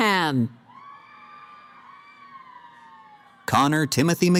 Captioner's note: cheering